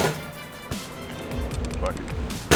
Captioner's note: basketball falling through rim and net